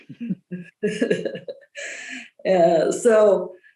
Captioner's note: laughing